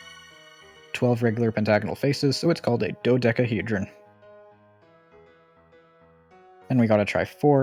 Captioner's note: ding